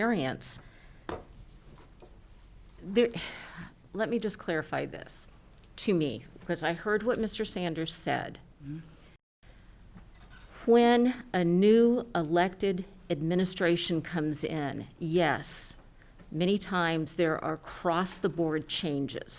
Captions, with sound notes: there, (sighs)... Let me just clarify this, to me, because I heard what Mr. Sanders said. When a new elected administration comes in, yes, many times there are cross the board changes.